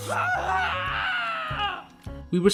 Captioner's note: painful screams